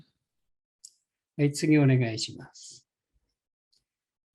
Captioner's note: speaking japanese